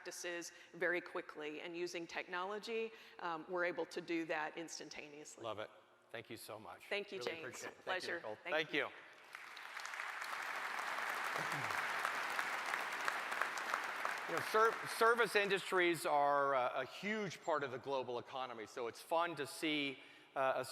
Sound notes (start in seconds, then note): 11.9 applause